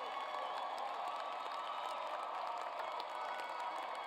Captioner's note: cheers and applause